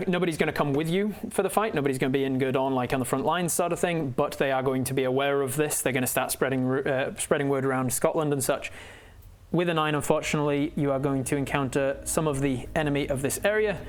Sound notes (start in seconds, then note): none